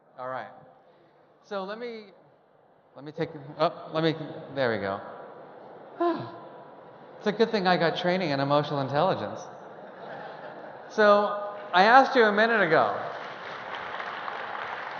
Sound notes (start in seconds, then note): 5.9 sighs; 9.6 audience laughs; 11.6 audience applauds